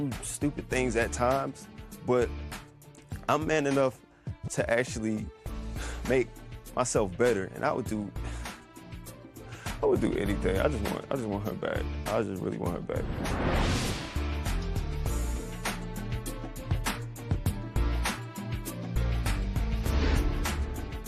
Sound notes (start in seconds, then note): 9.5 sighs; 10.2 voice breaking